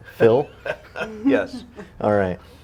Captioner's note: laughing